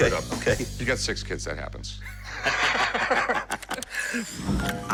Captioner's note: laughter